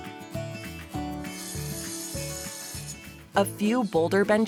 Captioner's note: saw grinds